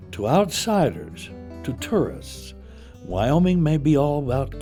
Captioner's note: voiceover